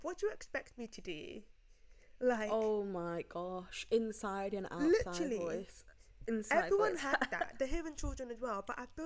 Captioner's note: laughs